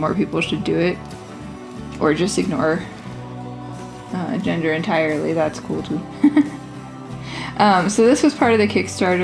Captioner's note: laugh